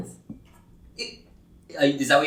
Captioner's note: makes 'about to make fun of sister' noises